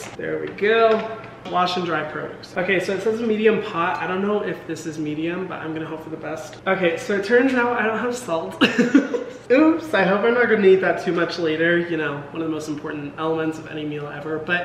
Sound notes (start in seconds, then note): 8.6 laughs